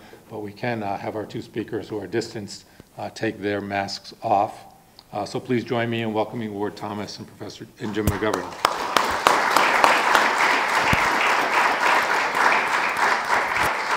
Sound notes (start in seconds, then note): 8.1 audience clapping